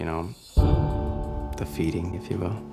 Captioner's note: budum